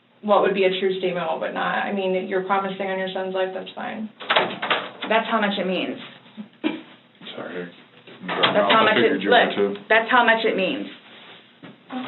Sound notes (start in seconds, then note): 4.2 door opens loudly; 8.2 door closes